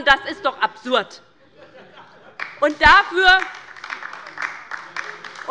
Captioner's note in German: Beifall bei der LINKEN